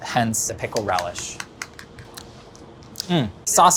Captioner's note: whisk clinks